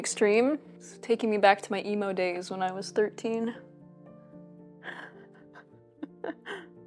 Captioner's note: chuckles